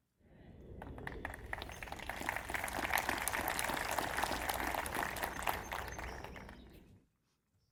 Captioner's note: applause